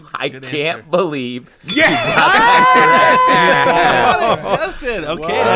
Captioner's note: bell ding